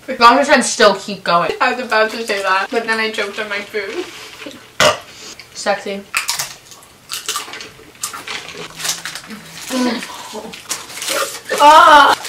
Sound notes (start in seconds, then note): 4.8 burps